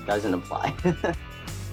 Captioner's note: chuckles